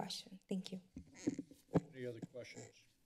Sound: microphone rustling

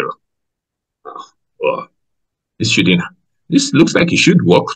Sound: grumbles

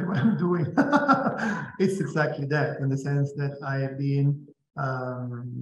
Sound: laughs

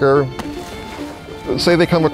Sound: splashing

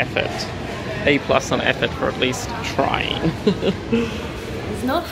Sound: laughs

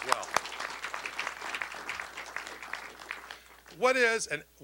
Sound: applause

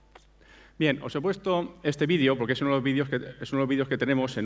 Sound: speaking spanish

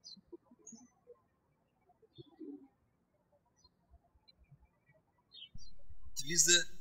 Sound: birds chirping

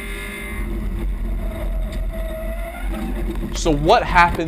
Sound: screeching

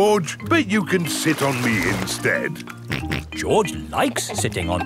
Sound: snorts

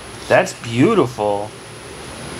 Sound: none

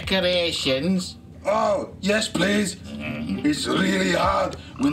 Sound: Grumpy mutters

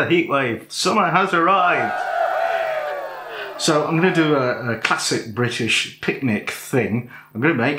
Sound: cheers

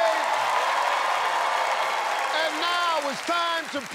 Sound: cheers and applause

